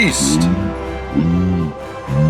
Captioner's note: sound FX: Wildebeest grunting